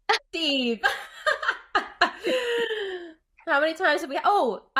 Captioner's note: laughing